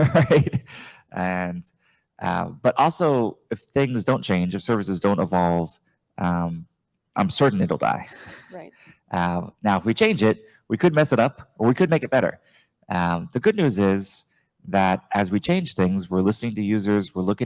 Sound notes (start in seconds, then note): 0.0 chuckle